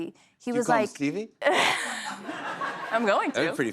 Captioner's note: laughs